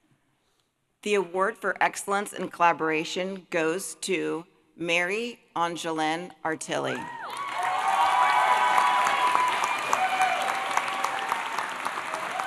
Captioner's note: applause